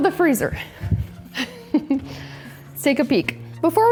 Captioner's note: laughs